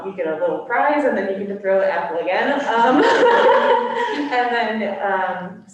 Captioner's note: laughs